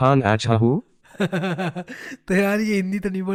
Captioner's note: laughing